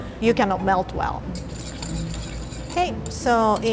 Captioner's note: whisk scratching